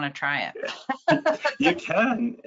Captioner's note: laughing